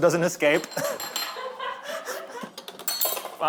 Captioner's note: laughter